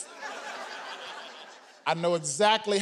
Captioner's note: audience laughing